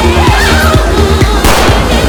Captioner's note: woman yelps